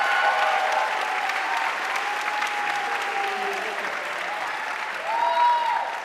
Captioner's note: audience cheering and applauding